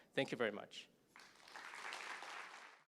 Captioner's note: applause